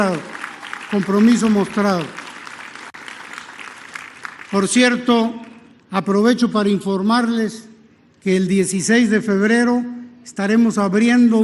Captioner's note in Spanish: aplausos